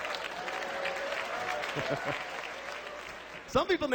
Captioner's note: laughs